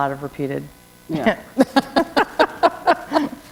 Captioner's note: laughter